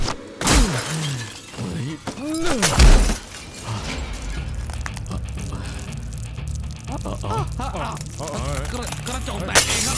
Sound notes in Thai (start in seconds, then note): 0.2 เสียงต่อยกระจก; 2.1 เสียงเตะกระจก; 6.6 เสียงผู้คุมตกใจ